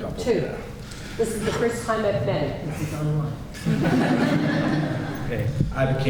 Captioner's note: polite laughter